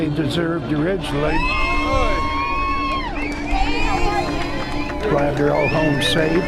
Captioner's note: cheering